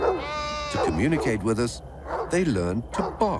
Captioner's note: bleeting